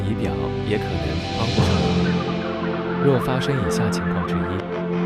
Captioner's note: warning overwhelm effect